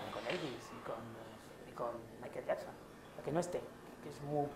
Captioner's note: TV background noise